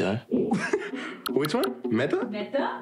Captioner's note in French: rire